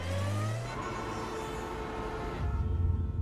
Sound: traffic sound

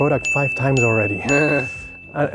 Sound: dings

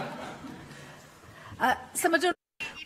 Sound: laughter

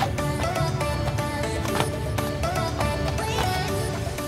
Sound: slap

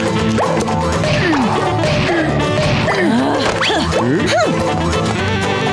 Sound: grunting

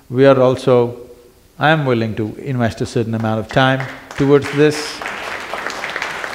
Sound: applause

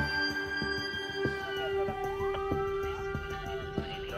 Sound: sirens wail

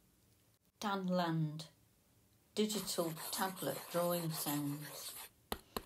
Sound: digital tablet drawing sounds

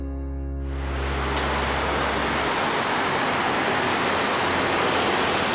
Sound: engines roaring

